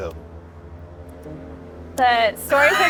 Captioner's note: aircraft droning